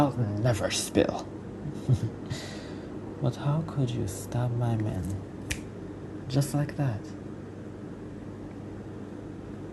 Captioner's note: snaps finger